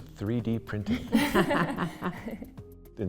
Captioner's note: giggling